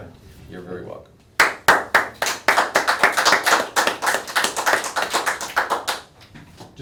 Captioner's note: applause